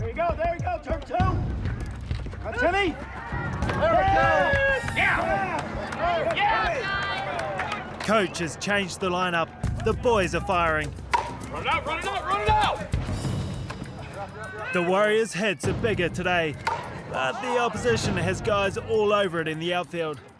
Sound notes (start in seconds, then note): 2.4 cheering and applause